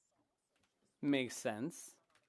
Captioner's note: speaking French